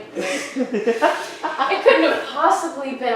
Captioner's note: laughing